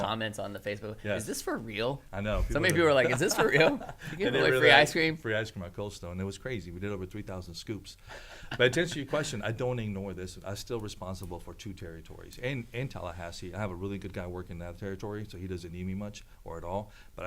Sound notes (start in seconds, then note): 2.9 laughs; 8.1 laughs